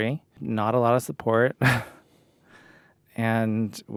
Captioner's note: laughs